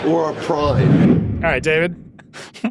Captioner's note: dramatic whooshing